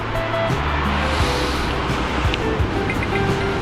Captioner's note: wind Blowing